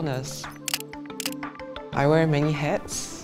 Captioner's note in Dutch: klik, klik